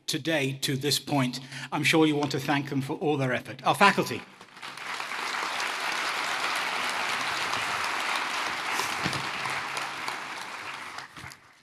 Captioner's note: applause